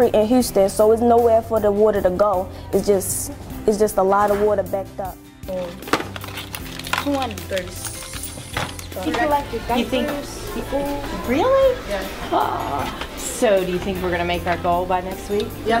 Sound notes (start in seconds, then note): 5.3 student chatter